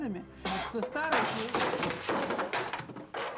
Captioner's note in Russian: звук падающих вещей